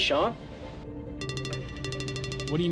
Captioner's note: phone ringing